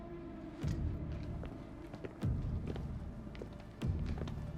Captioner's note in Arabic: موسيقى متوترة; خطوات تبتعد